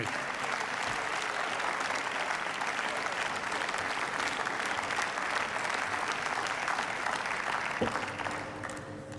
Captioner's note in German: Beifall